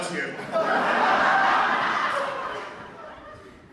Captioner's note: laughter